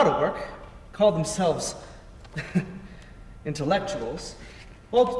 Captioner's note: chuckles